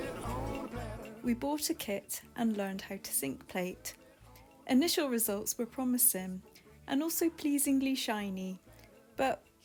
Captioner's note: voiceover